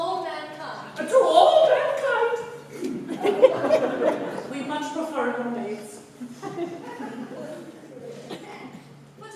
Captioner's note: CYRIL, falsetto